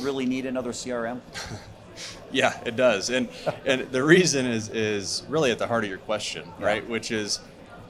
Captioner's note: laughs